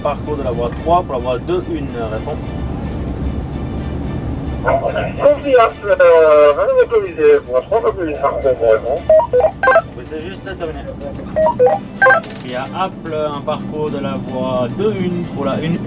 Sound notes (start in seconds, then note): 3.4 radio exchanges